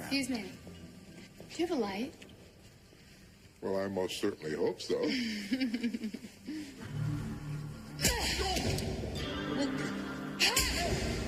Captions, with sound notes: - Excuse me, do you have a light? - Well, I most certainly hope so. (woman laughing) (grunting)